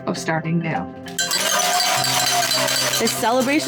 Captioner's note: bell ringing